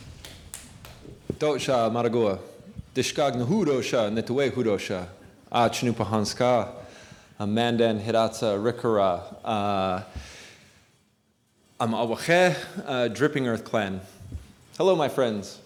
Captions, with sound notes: (speaking Hidatsa language) A Cannupa Hanska a Mandan, Hidatsa, Arikara (speaking Hidatsa language) dripping earth clan.